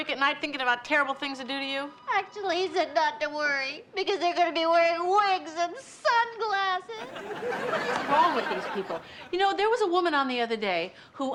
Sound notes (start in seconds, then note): 7.0 audience laughs